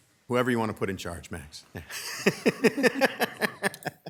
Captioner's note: laughs